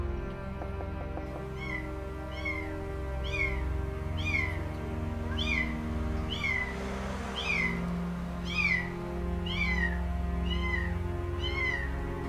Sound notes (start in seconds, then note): 1.5 cat crying